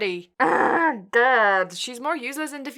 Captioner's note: groans in agony